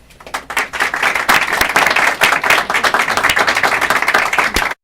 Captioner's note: applause